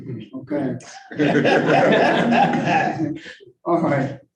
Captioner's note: all laughing